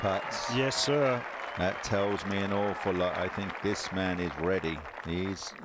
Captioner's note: cheers and applause